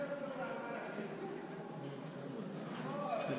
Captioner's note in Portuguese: barulho de pessoas falando